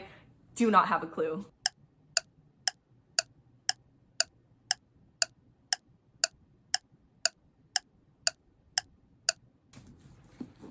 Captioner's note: clock tick-tocking